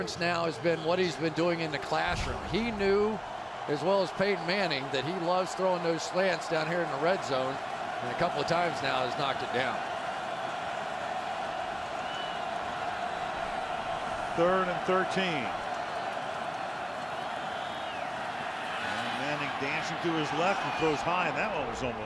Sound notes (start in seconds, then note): 11.1 crowd cheering